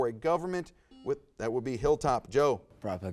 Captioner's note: buzzer buzzes